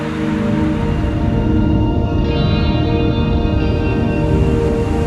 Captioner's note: wind blowing in the trees; car driving